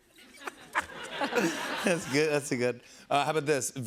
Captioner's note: laughter